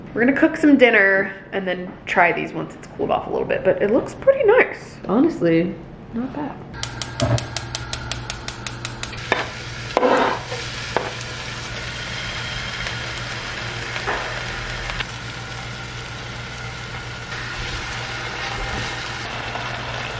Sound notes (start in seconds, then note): 6.8 cooker clicks; 9.5 oil sizzling